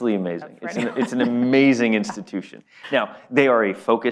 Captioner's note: laughs